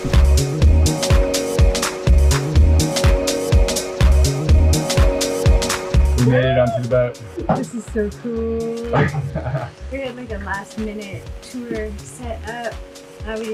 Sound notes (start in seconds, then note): 0.3 upbeat music; 8.9 laughs